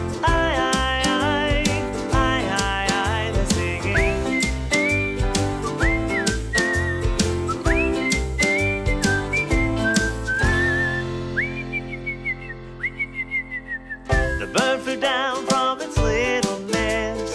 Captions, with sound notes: Aye aye aye aye aye They're singing [whistling] The bird flew down from its little nest